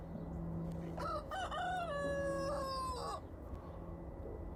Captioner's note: rooster crowing